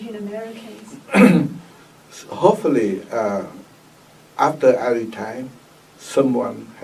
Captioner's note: coughs